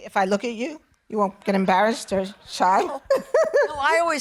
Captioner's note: laughing